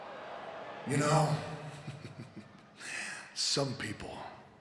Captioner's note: laughs